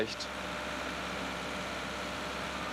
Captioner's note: high excavator hum